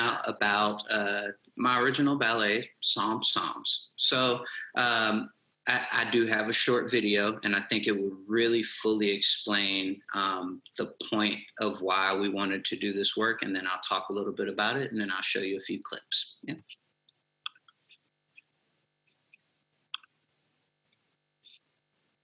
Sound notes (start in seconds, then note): 17.4 mouse clicks